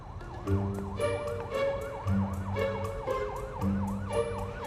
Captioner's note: police sirens